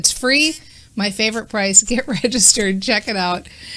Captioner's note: laughing